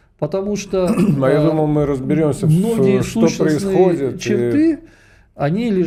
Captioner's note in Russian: откашливается